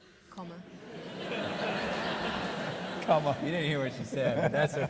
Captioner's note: audience laughing